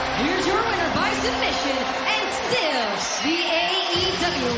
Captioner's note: bell